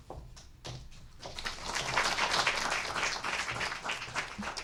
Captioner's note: audience applauding